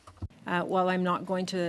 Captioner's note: speaking French